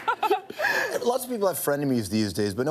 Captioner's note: both laugh